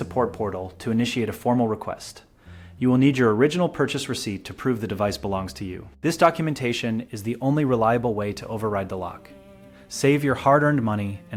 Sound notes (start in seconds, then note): 0.9 speak with a friendly, engaging tone